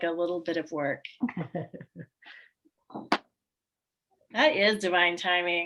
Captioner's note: laughs